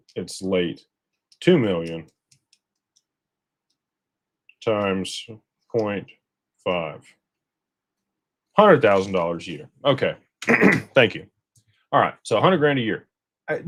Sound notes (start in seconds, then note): 10.4 clears throat